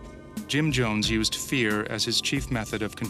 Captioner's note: voiceover